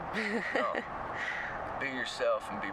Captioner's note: giggle